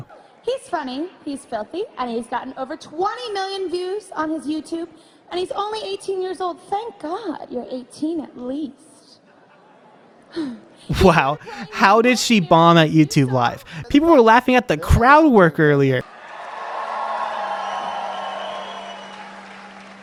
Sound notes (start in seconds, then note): 10.9 chuckling; 11.3 sighs; 16.0 crowd cheering